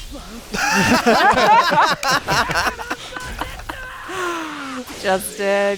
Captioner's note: laughter